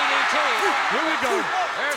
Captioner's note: crowd cheering